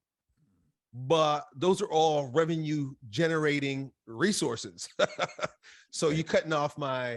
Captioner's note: laughs